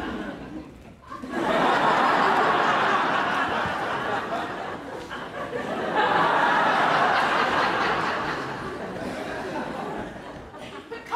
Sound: audience laughs

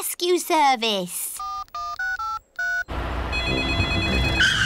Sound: dialing; phone rings

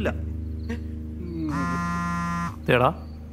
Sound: mobile vibrating

